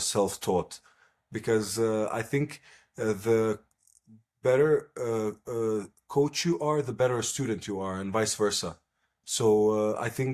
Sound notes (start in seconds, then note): none